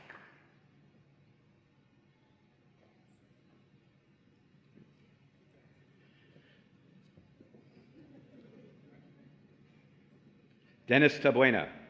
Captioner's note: applause and Cheering